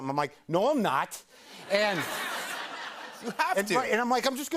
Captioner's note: laughter